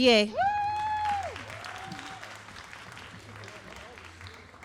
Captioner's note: all applauding and cheering